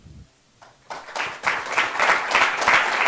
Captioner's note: applause